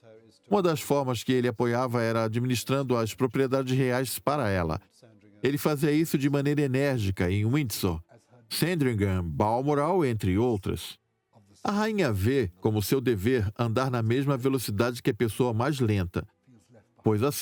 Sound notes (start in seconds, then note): 7.2 voiceover